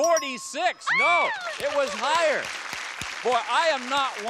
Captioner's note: applause